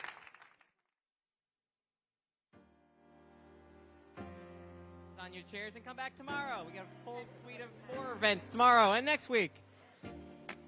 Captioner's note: applause